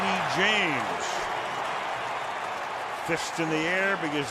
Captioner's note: cheering